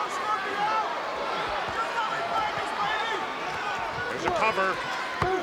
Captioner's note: people yelling